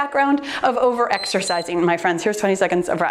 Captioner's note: timer beeps